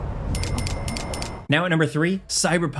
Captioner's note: cash register dings